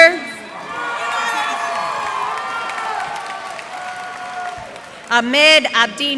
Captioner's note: cheers and applause